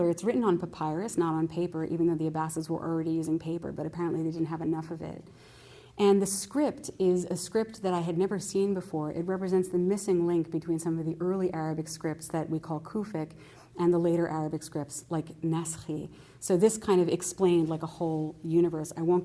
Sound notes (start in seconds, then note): 13.0 non-english; 15.7 non-english